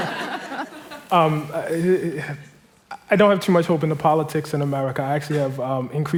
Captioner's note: laughter